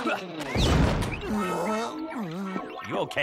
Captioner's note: woozy moans